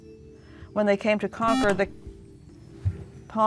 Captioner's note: beeping